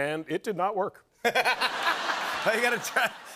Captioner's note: laughter